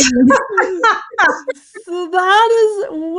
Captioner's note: everyone laughing